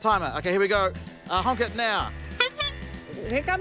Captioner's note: toots horn